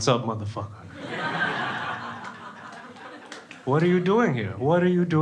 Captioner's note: crowd laughing